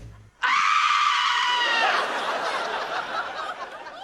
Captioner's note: shrieks